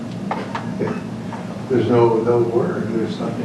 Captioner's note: laughs